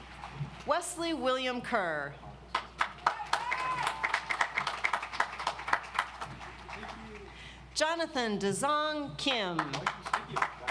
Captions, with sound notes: Wesley William Kerr. (audience applauds) Jonathan Daesung Kim, Cum Laude.